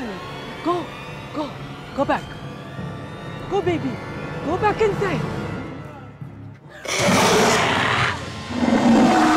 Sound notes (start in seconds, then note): 6.8 growls; 6.8 screams